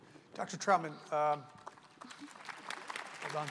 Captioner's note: applause